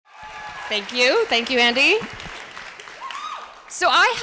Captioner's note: applause